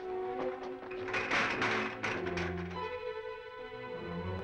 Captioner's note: bucket clatters; suspenseful music